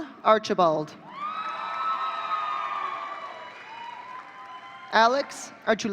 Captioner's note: audience cheering